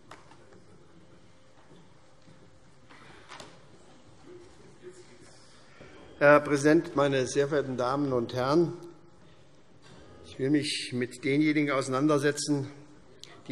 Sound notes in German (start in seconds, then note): none